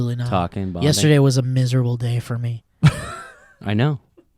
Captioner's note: laughs